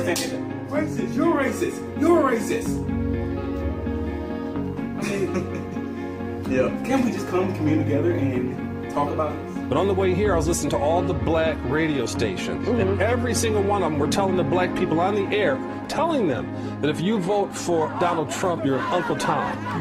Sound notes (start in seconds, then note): 5.0 chuckle